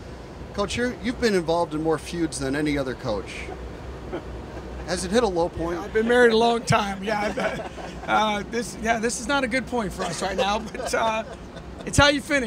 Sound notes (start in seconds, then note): 5.7 laughter